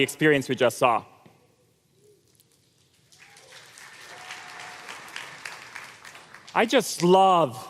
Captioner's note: applause